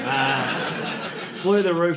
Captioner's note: audience laughing